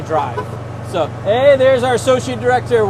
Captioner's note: blows horn